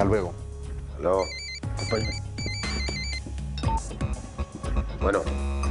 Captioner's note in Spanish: Suena el celular